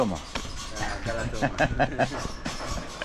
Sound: laughs

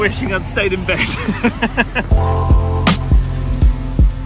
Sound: huckling; lively music

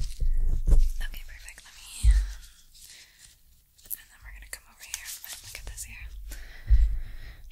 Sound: scraping Continues

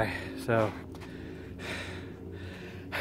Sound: big Exhale

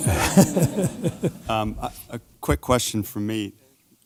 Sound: laugh

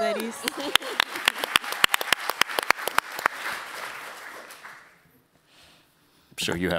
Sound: applause

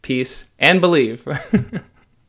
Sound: laughter

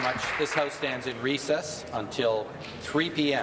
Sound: applause

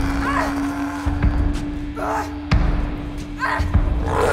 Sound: screams and snarls

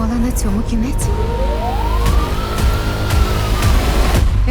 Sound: siren wailing

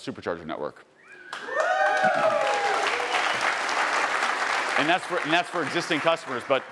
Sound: attendees cheering and applauding

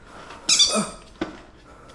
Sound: toy squeaks

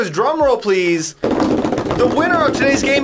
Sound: tapping table

